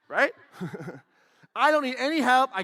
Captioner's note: laughs